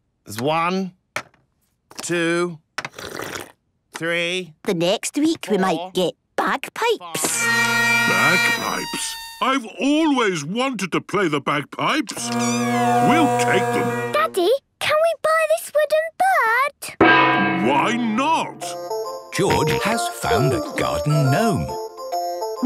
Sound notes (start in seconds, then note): 2.9 slurping; 7.2 dissonant music; 12.2 dissonant music; 17.0 gong; 19.5 giggling